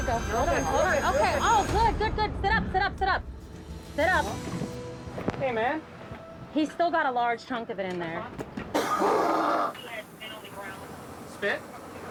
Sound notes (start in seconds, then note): 8.7 coughs